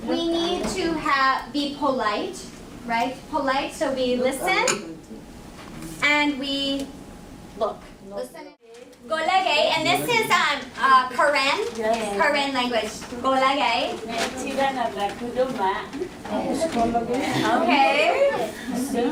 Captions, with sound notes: we need to be polite, right? Polite, so we listen and we look. (foreign word spoken) And this is Korean? - Yes. - Korean language. (foreign language spoken) Okay.